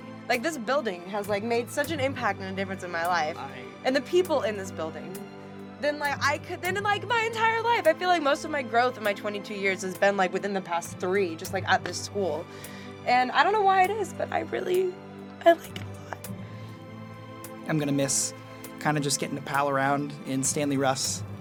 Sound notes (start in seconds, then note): 6.0 stammering